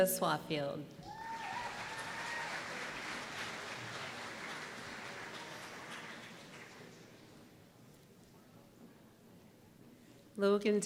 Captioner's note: applause